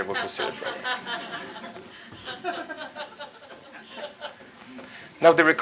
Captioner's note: audience laughs